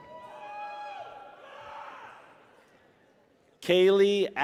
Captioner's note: people cheer